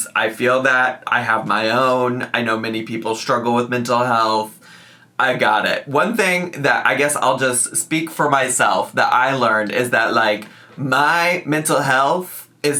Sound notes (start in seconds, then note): none